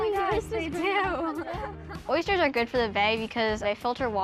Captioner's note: girls giggle